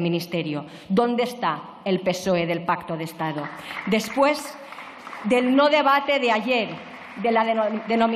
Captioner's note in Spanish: Aplausos